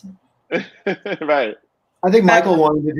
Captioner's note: laughs